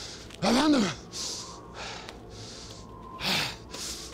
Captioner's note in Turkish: Uranos nefes sesi